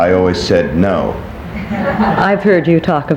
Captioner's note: people laughing